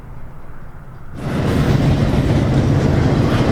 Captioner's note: train passes